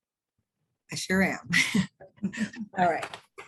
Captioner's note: laughs